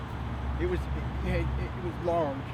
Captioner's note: none